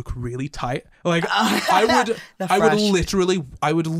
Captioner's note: laughter